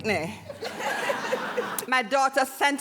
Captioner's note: audience laughing